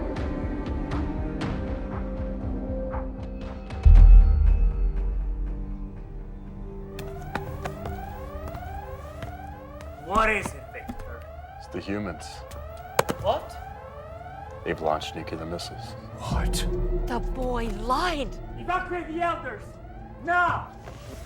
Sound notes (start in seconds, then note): 5.3 dramatic music continues; 7.6 sirens blaring